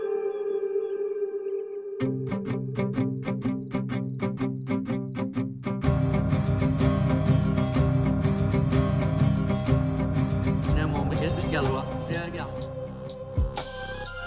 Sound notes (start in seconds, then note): none